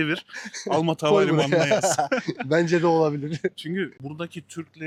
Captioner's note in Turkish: kahkaha